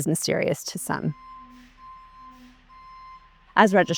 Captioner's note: truck beeping